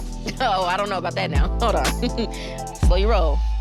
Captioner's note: laughing